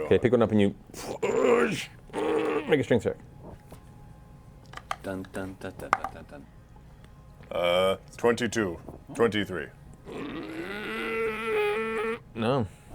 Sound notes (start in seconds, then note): 4.0 grunts; 10.0 grunts and strains